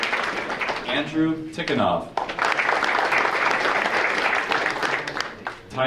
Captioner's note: audience applauding